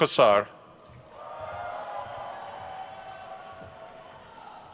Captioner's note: crowd cheers